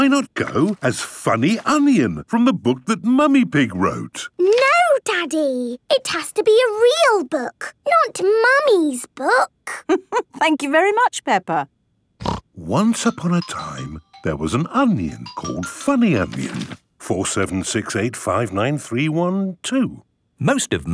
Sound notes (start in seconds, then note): 9.7 laughing; 12.2 snorting